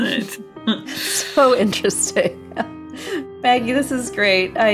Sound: laughs

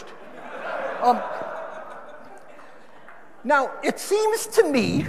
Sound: audience laughing

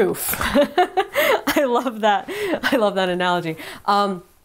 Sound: laughing

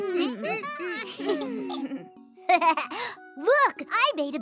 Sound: laugh

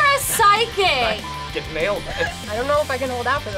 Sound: beep

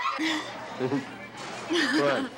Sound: Angie laughs

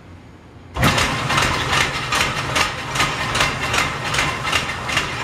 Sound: machine rattling

